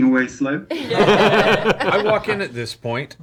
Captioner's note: all laugh